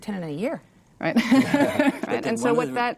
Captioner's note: laughs